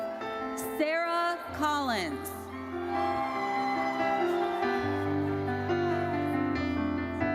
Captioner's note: audience cheers